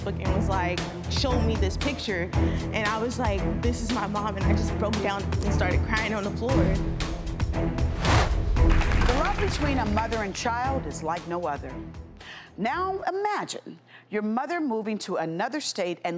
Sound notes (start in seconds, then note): 8.6 audience clapping